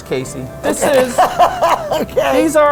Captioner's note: laughing